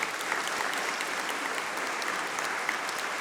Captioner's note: applause